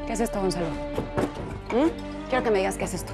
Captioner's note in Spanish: Toques en la puerta